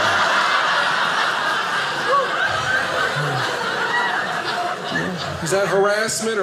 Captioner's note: audience laughing